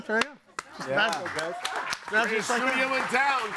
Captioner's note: audience applauding